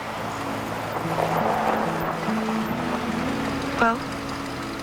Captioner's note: crushing of sand by tires